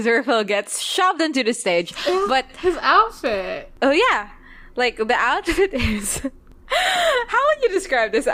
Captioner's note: laughs